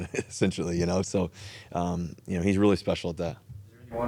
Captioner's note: chuckles